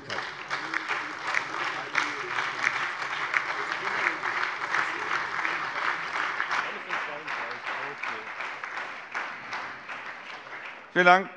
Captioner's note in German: Beifall SPD, vereinzelt BÜNDNIS 90/DIE GRÜNEN und DIE LINKE